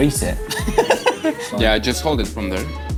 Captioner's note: laughs